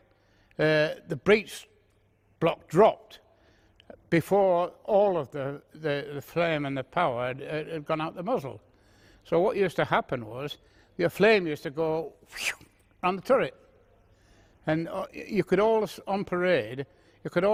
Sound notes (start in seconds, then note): 12.3 whooshing